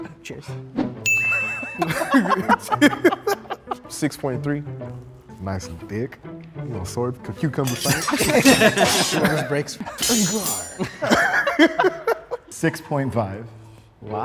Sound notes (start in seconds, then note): 1.0 bell rings; 1.3 group laughs; 7.7 group laughs; 8.2 swords swooshing; 11.4 laughs